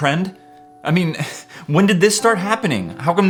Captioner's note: sigh